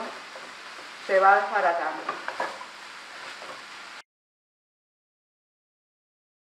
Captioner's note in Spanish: Crepitación